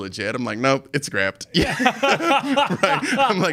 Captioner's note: laughing